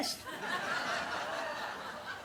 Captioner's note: audience laughs